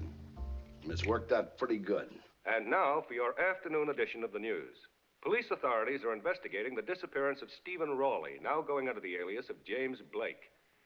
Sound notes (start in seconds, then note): 2.4 man On Radio